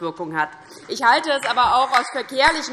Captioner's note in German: Beifall DIE LINKE